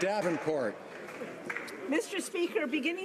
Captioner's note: some Applause